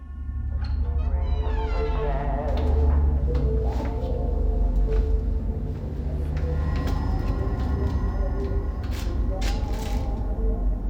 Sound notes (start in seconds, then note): 0.5 faint radio music playing; 0.7 door creaking